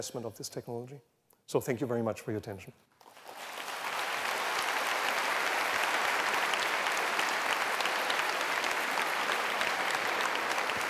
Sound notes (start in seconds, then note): 3.0 applause